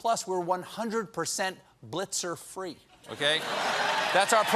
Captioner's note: cheers and applause